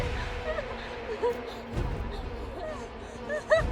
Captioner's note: Jane whimpering